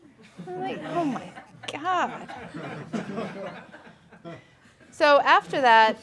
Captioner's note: laughing